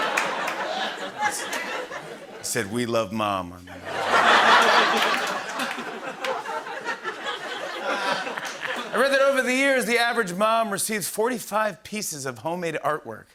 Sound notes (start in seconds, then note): 3.7 laughter